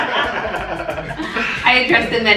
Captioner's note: laughter